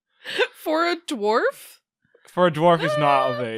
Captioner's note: laughs